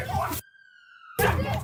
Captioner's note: people shouting; ambulance siren